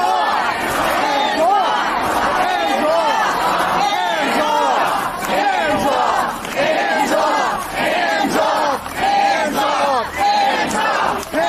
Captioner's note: chanting